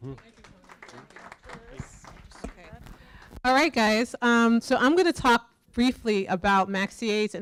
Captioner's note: applause